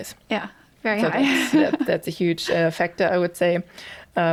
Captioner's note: chuckles